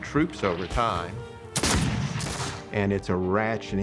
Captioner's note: gunfire